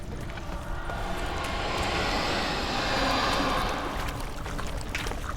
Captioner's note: ghostly noise